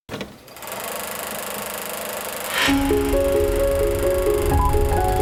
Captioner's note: movie reel rolling; upbeat jingle